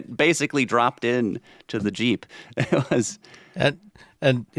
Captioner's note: chuckles